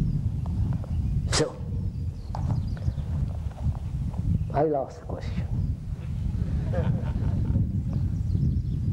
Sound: laughter

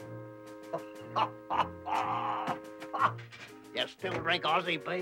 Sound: Pop laughing

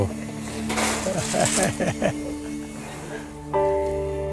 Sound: laughing

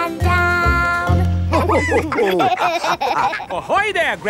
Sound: all laughing

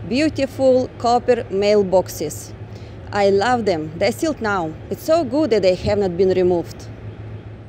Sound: street Noise

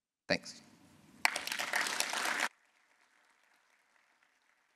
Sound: applause

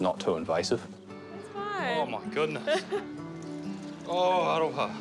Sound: chuckles

